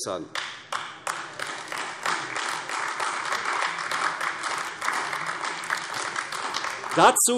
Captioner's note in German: Beifall AfD